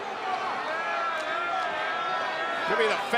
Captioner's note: crowd yelling